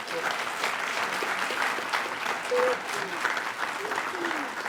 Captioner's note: attendees applaud